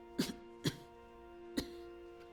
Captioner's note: coughs